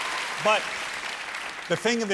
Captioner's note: cheers and applause